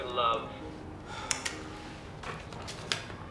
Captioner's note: sighs